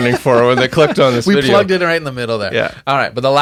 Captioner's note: laughing